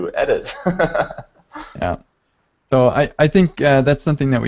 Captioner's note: laughs